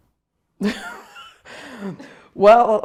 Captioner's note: laughing